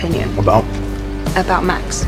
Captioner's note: voiceover